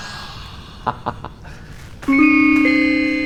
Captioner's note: laughs